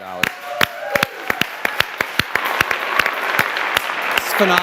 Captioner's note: applause, cheering